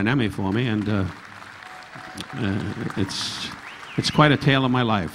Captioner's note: audience applauding; audience whistling